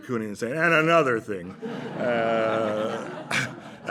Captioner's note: drunkenly